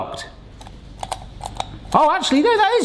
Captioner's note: gadget clicking